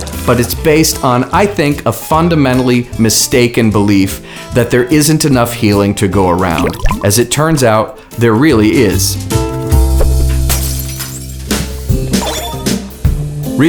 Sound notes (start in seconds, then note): 10.1 glass shattering; 11.9 lighthearted music